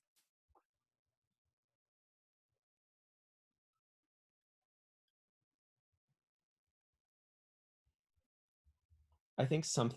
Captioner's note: pause